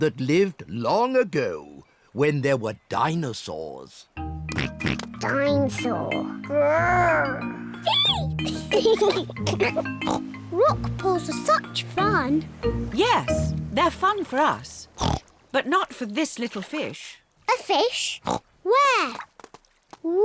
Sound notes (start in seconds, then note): 4.5 oinks; 6.9 roars; 8.3 both giggle